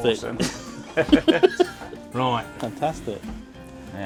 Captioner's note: laughs